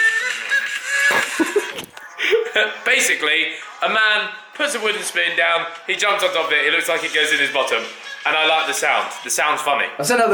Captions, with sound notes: (laughing) Basically, a man puts a wooden spoon down, he jumps on top of it. It looks like it goes in his bottom. And I liked the sound. The sound is funny.